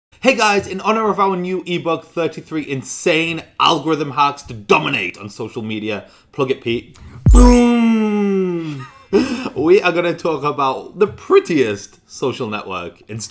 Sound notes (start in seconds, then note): 7.3 chimes